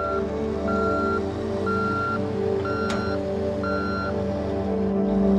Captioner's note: beeping